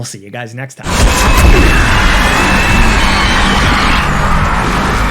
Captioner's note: weapons buzzing